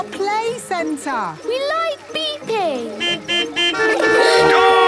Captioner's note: horns beeping